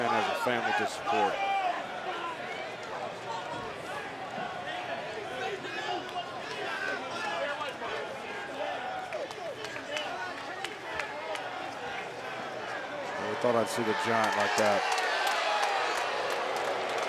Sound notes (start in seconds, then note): 3.7 crowd murmuring